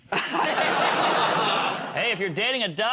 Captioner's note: laughter